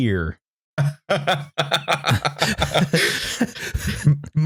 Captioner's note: laughs